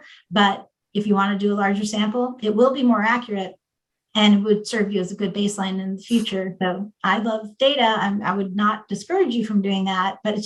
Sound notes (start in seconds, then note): none